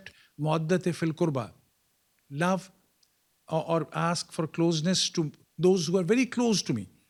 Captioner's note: non-english speech